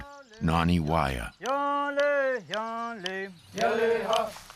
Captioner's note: chanting